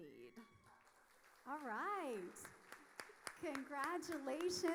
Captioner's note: audience applauding